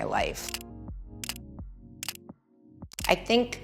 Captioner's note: camera snapping consecutively